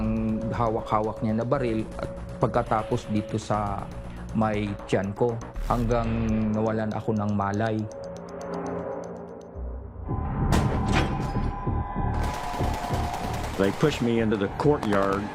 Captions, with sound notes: [suspenseful music] [gunfire] - They pushed me into the courtyard,